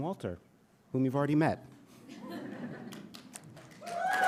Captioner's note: audience chuckling; audience cheering and applauding